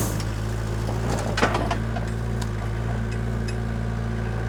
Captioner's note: engine rumbling